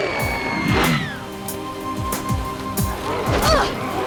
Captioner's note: ominous growling; screams